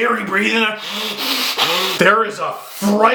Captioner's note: deep breathing